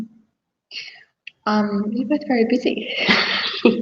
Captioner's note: laughs